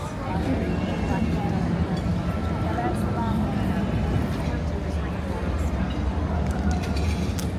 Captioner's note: people chatter